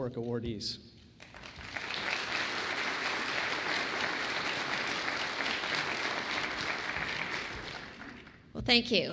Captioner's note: applause